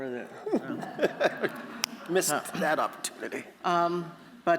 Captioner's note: chuckles